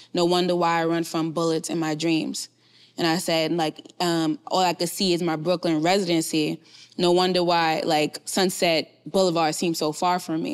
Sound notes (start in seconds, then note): none